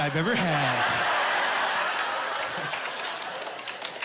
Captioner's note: laughing